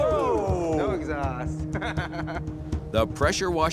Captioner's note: laughs